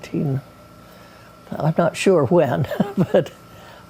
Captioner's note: chuckles